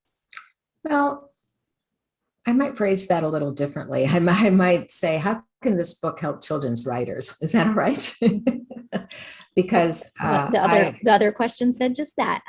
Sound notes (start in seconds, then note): 8.2 laughs